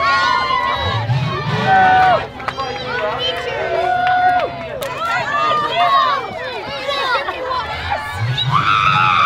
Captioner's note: cheering crowd; excited screams